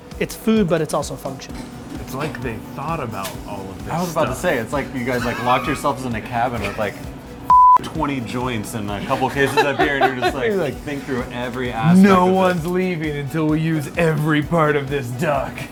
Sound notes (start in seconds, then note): 7.5 beep